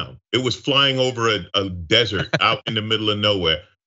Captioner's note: laugh